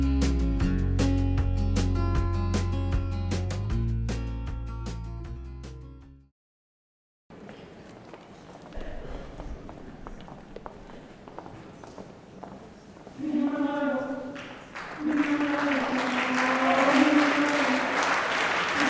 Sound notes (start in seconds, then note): 9.2 walking footsteps; 13.7 singing in foreign language; 14.3 applauding